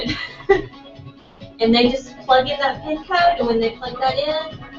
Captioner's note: laugh